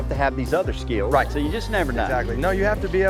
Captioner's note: pat